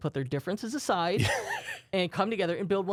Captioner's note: softly chuckles